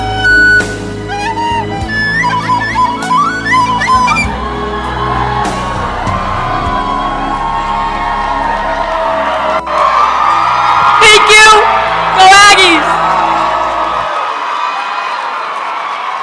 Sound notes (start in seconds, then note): 10.1 crowd cheering; 13.1 applause